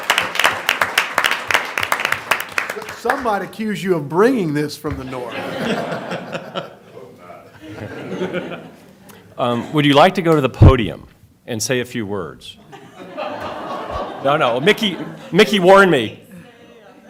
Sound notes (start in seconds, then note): 5.0 laughter